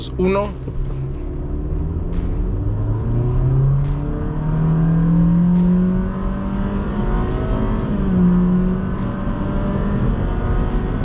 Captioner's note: engine revving